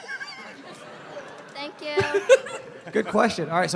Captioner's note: laughter; giggles